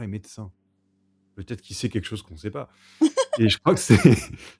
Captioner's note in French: rires